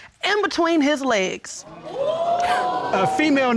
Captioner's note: audience gasps